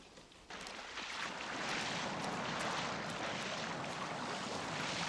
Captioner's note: water splashing